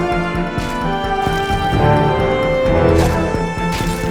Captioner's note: men grunting; weapons thudding; blood splattering; dramatic music